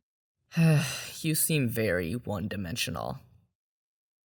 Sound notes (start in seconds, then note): 0.5 sigh